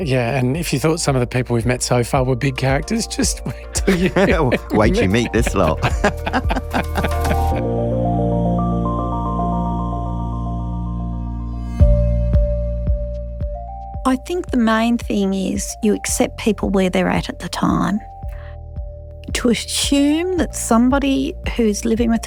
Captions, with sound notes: - Yeah, and if you thought some of the people we've met so far were big characters, just wait till you... - Wait till meet this lot. (Laughter) - I think the main thing is, you accept people where they're at at the time. To assume that somebody who's living